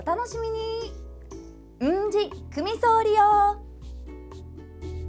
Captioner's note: in Okinawan